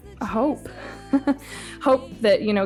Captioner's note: chuckles